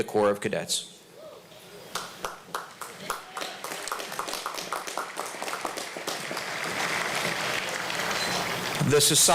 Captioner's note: applause